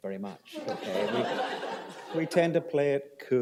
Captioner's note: laughter